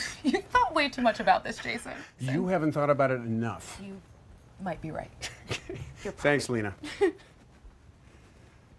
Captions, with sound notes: - You thought way too much about this, Jason. - You haven't thought about it enough. - You, might be right. - Thanks Lena. (chuckles)